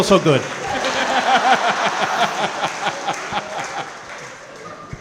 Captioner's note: & crowd laughing